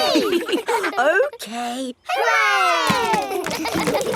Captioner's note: chuckles; kids laughing